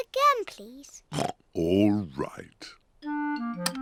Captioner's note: oinks